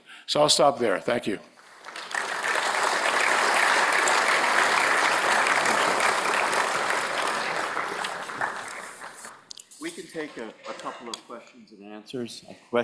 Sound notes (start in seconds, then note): 5.4 applause